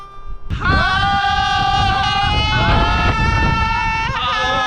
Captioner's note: they all humm theme